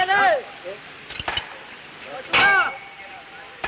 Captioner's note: chatter, metal clacking